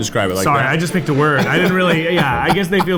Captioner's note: laughs